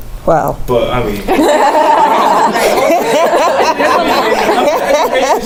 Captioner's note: laugh